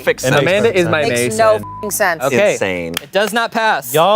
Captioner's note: beep